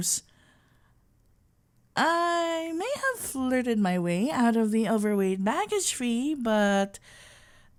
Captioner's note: conspiratorial whisper